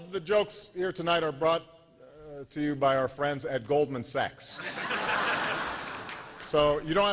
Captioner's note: laughter